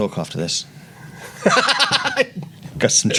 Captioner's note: laughing